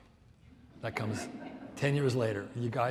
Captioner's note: audience laughs